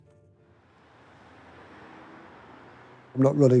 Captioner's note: Traffic